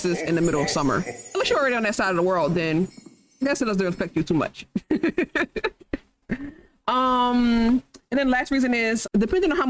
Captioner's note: chuckles